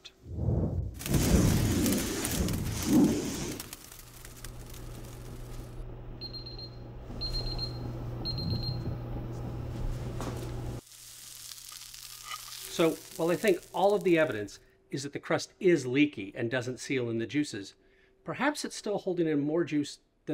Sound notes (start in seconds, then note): 0.0 air whooshing; 6.2 thermometer beeping; 10.7 steak sizzling